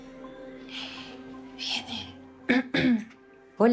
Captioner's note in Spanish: Carraspea